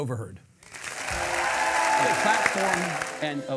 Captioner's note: audience clapping and cheer